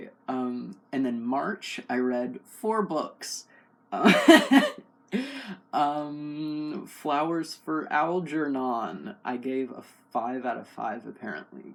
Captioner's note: laugh